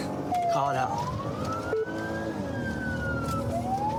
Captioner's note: siren blares